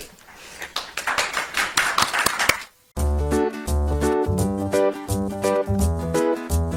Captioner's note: audience applauds; upbeat music